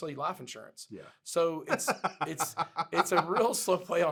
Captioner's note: laughs